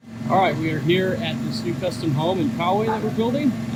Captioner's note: crane engine idling